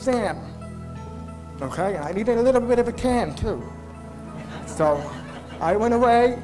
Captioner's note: laughter